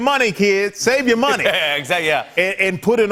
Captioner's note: laughs